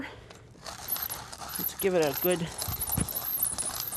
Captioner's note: grinding